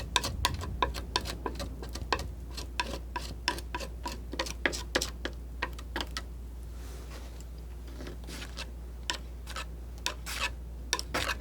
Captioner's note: scratching